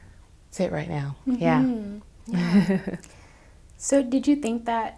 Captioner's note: chuckles